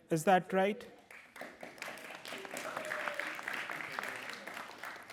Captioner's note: applause